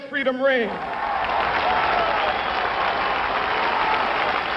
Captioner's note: applause